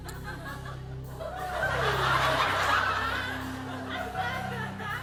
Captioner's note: laughter